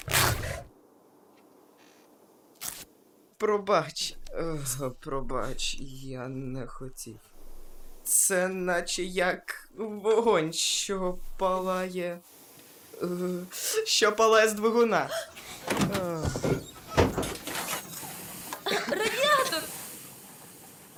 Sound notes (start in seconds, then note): 0.0 fabric rips; 0.1 low growl; 3.3 strained; 15.0 sighs; 15.0 gasps; 18.6 cough